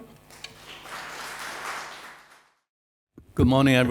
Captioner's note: audience applauds